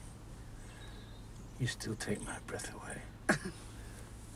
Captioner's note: chuckles